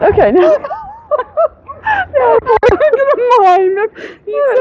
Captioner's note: laughing